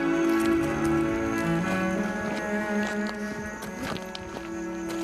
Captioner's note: footsteps pattering